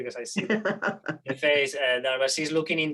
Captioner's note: laughs